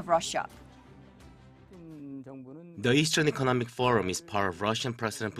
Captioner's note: Korean